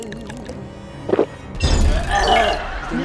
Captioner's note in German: Unsichere Laute; Schlucken